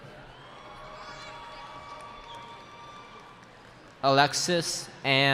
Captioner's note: cheering